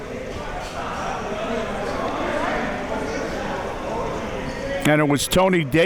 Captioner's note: audience chattering